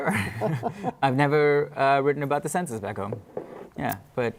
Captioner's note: laughter